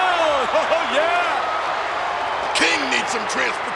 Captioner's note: audience cheers